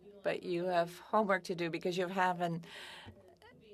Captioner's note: speaking French